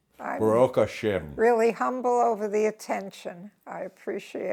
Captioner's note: in Hebrew